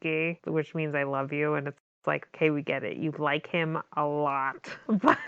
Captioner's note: laughs